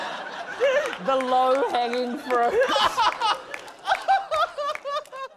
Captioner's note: laughter; laughs